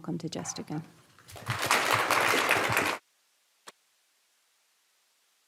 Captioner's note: audience clapping